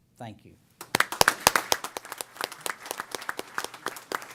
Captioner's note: applause